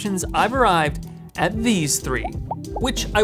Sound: bubbles popping

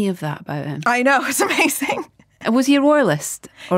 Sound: giggles

